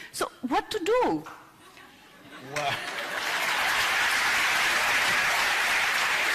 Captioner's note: applause